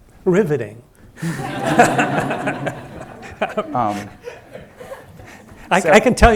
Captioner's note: audience laughing